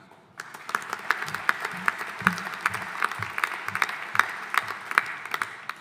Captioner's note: audience applauding